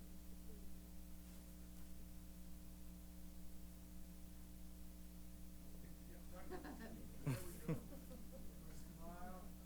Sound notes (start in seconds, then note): 6.4 laughter